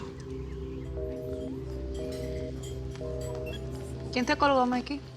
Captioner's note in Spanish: Sonido de línea ocupada